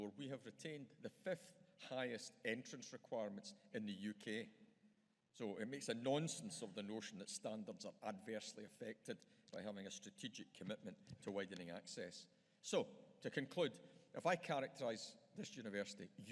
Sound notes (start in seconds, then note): none